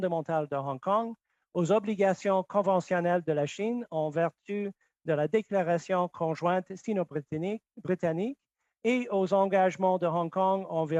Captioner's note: speaking French